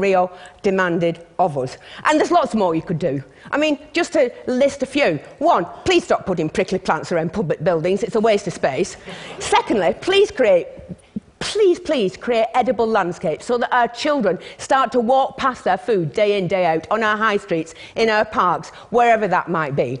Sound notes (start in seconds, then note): 8.8 laughter